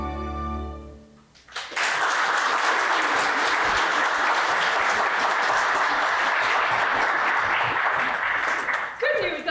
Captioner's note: applause